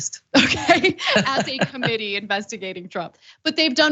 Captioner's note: laugh